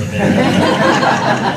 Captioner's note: laughter